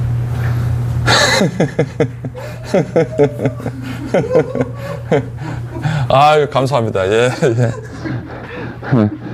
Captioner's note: laughs